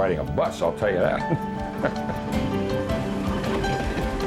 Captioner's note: laughs